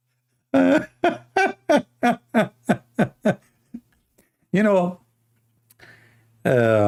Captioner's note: Ketawa